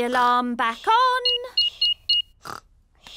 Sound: beeping

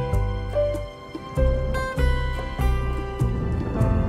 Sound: thundering

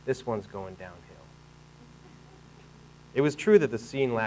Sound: audience laughing

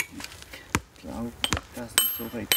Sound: quiet conversation

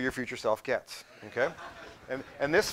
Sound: laughing

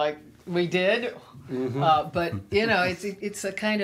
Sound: interviewer laughs

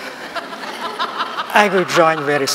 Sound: laughter

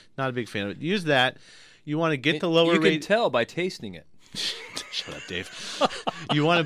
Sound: laughs

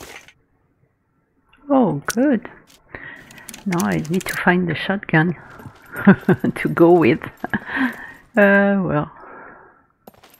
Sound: laughs

